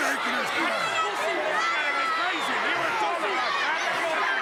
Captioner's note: crowd yelling